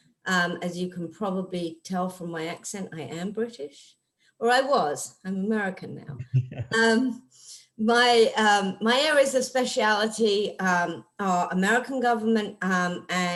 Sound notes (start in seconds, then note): 6.2 laughing